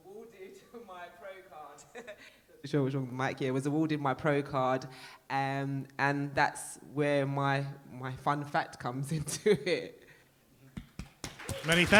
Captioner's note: applause